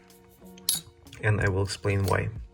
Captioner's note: metal pings